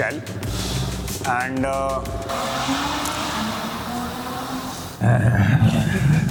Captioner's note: distant roar of a sweet inline 4